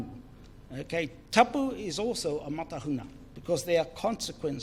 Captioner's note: foreign Language